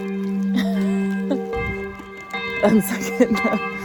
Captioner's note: chuckles; bell continues to toll; chuckles